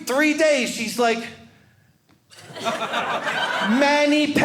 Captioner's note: audience laughing